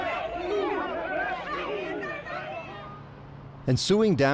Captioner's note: protestors shouting